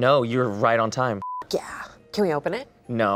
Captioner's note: beep